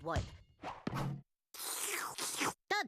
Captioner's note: slurping